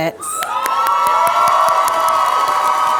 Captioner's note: applause